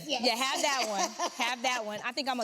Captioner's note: laughs